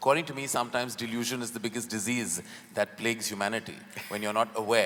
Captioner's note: Sadhguru laughs